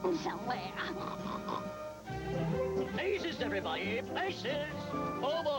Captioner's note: snorts